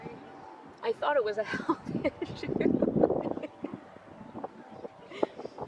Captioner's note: laughs